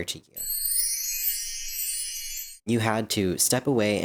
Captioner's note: twinkling